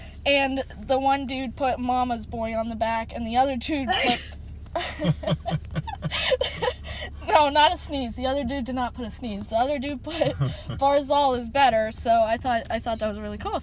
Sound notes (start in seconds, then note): 3.7 grandma sneezes; 4.8 we start laughing